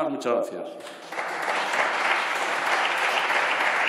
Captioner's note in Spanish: Aplausos